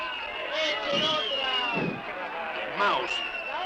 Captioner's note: crowd jeers and whistles